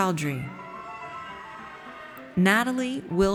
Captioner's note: audience cheers